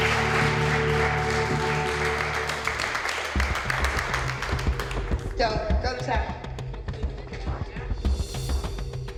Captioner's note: applause